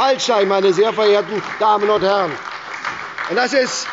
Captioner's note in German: Beifall bei der SPD